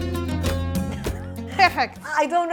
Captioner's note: giggles